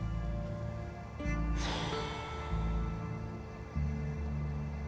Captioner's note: exhales; somber music